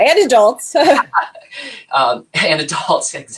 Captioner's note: both laughs